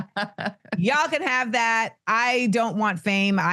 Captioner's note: laughs